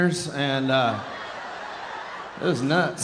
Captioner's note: audience laughing